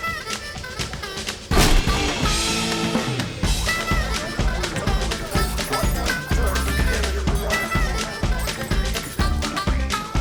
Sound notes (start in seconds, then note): 1.5 door banging; 4.1 gentle upbeat music; 6.9 gentle upbeat music